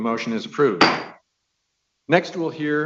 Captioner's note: gavel taps